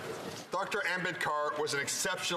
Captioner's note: speaking French